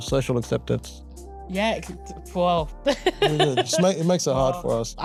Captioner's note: laughs